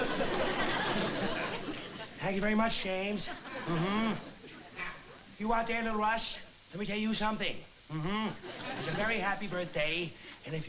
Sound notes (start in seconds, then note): 1.7 impersonating jimmy cagney